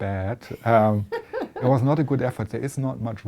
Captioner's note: laughter